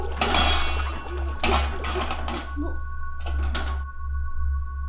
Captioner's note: pots clanging